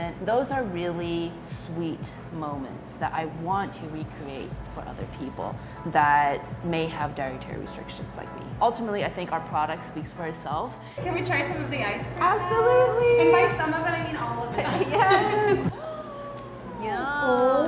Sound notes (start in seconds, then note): 13.1 laughing; 15.7 gasps